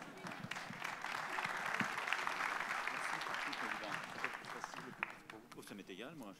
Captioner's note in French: Applaudissements